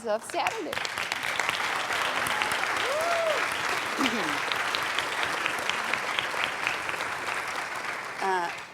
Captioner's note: applauding